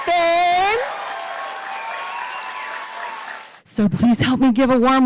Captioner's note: audience applauding